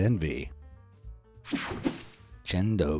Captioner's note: screen whooshing